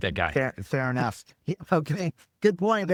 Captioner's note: laughing